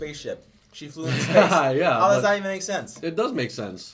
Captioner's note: laughing